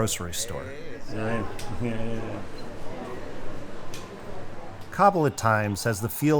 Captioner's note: people chattering